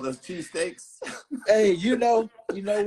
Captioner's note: laughing